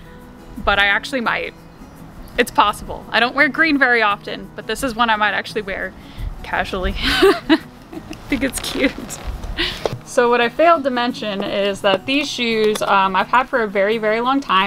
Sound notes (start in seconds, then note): 7.8 laughs